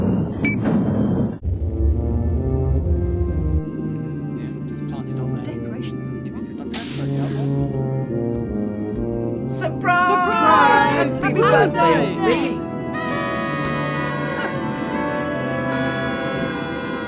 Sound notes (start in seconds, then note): 3.7 crew muttering; 12.9 party horns